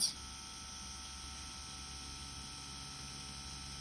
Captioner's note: machine whirring